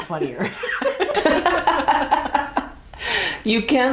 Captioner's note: laughing